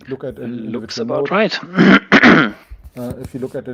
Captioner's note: clearing throat